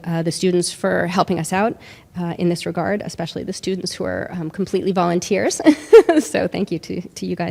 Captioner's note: laughs